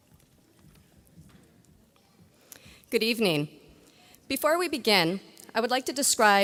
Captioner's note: none